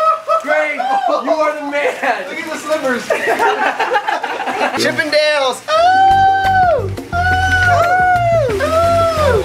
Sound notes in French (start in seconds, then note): 3.0 Rires; 6.3 hurlement